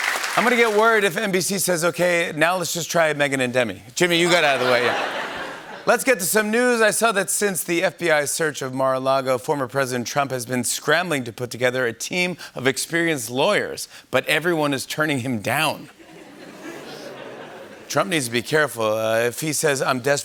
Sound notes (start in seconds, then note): 4.2 laughter; 16.0 laughter